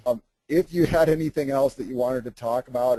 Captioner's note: laughs